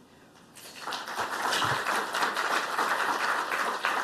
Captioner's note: applause